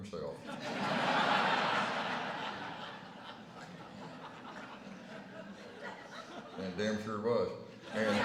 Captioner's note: laughter